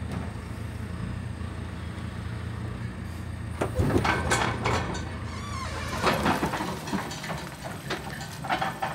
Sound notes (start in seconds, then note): 3.7 metal clanking and screeching